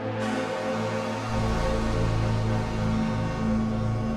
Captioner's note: horn buzzing